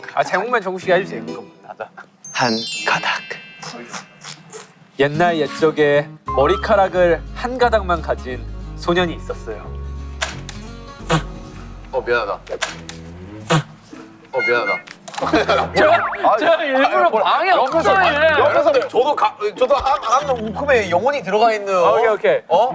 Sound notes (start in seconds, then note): 10.6 laughing!